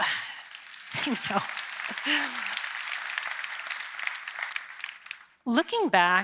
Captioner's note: applause